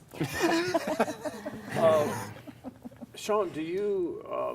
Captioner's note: laughs